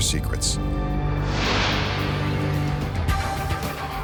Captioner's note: light beam swishing; upbeat instrumental music continues